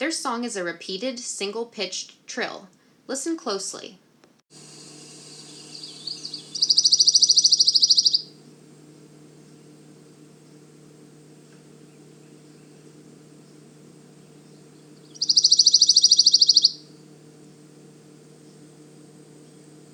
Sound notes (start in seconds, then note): 6.6 pine warbler singing; 9.5 short pause; 15.2 pine warbler singing; 18.3 long pause